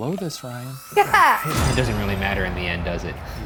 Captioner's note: laughing